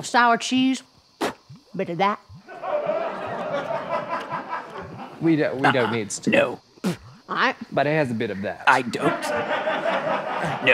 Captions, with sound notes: sour cheese. [spits] A bit of that. [audience laughter] - We don't-- We don't need stink bait-- - No. [enchantress spits] - But it has a bit of that. - I don't--